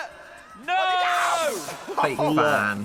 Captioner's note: electricity buzzing